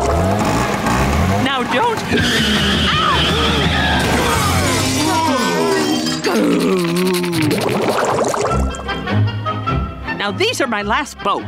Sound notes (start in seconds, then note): 4.2 groaning; 5.0 growling